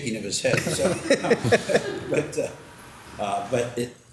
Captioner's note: all laughing